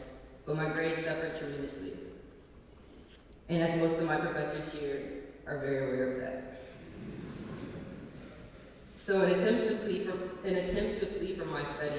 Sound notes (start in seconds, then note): 7.0 laughter